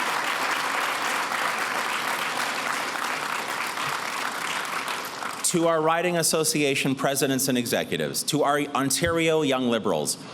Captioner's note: applause